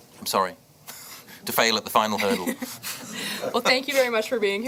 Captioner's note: laughing